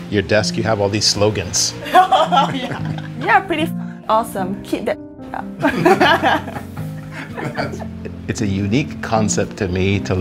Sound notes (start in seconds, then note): 1.8 laughs; 6.9 laughs